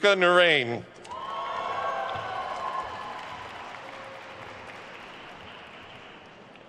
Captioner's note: attendees cheering and applauding